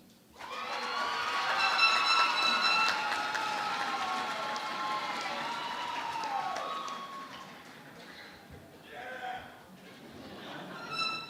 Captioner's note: cheering and Applause